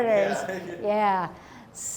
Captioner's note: laughs